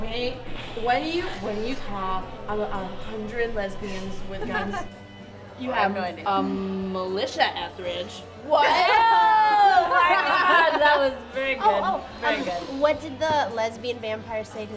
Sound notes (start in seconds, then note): 7.8 laughter